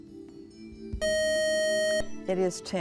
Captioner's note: buzzer